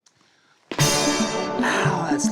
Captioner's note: hits gong